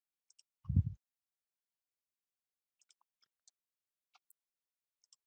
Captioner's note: mouse clicks